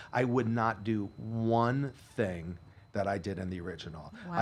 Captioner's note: none